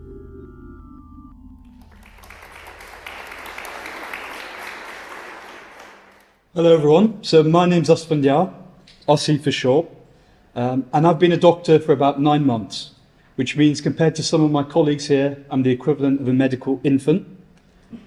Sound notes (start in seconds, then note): 1.6 applause